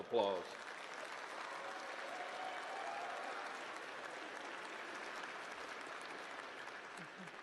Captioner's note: applause